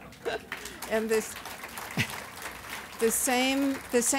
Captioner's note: audience applause